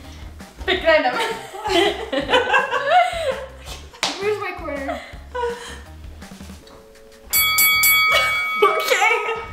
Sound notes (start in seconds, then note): 1.2 laughing; 7.2 fighting bells ringing